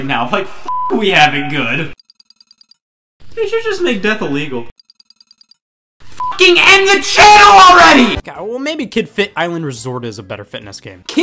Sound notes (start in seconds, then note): 2.0 beep; 4.8 beeping